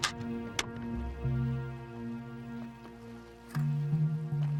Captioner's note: beeping